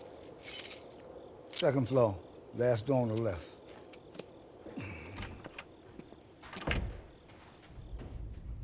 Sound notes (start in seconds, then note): 6.4 door opens; 6.5 door clicks shut; 8.3 suspenseful music